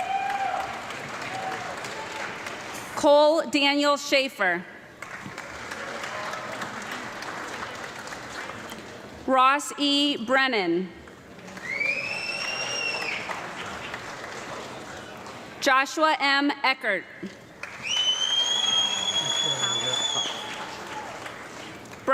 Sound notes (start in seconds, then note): 0.0 audience clapping and cheering; 4.9 audience clapping; 11.4 audience clapping and whistling; 17.6 audience clapping and whistling